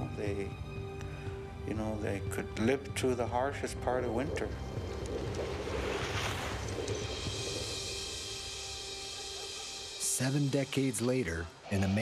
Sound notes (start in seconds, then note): 9.1 dog barking; 10.3 voiceover